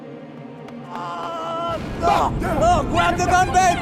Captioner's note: shouting